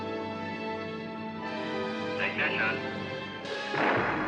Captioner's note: thrusters Firing